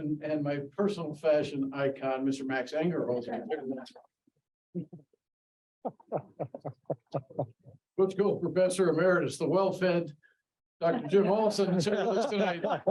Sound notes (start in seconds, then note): 4.0 audience chuckling; 12.7 audience laughing